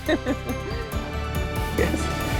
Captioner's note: speaker laughing